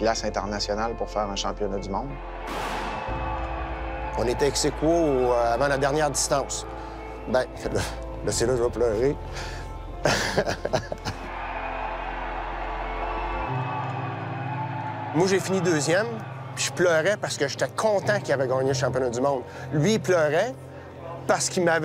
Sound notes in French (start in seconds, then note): 10.0 rire; 11.1 applaudissements